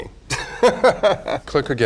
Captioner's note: Raja laughs